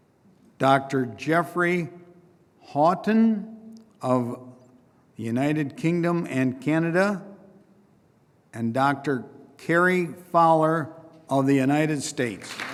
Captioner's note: applause